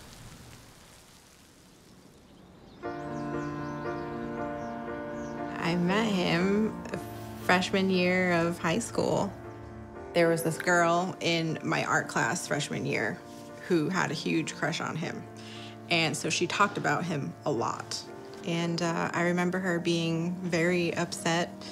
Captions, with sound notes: (birds chirping) (uplifting music playing) - I met him freshman year of high school. There was this girl in my art class, freshman year, who had a huge crush on him, and so she talked about him a lot. And I remember her being very upset